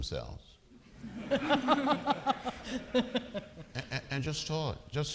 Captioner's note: audience laughing